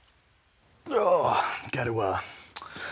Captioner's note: grunting